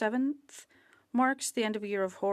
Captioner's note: speaking French